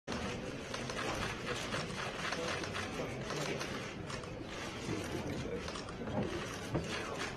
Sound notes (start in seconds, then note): 1.5 camera clicks